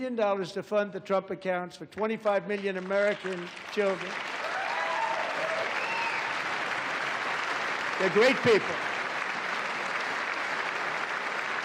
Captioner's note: applause